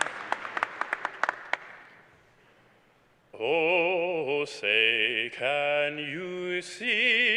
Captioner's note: applause